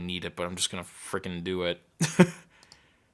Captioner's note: chuckling